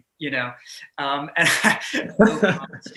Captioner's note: laughing